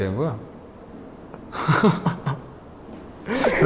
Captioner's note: haha